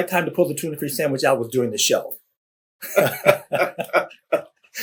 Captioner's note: laughter